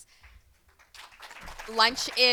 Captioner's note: audience applauding